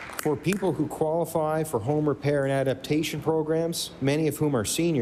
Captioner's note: applause